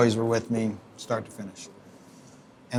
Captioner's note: none